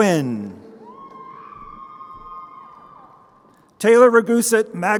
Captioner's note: crowd cheering